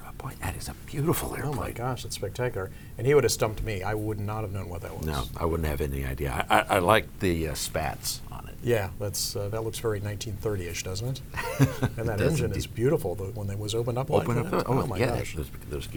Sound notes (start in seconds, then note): 11.4 loughs